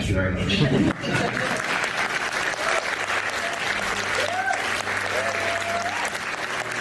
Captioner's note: laughter and applause